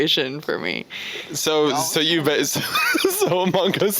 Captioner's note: laughing